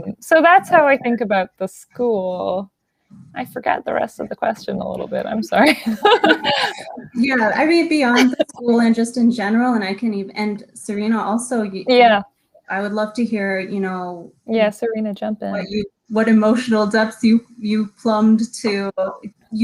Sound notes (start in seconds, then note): 4.8 laughs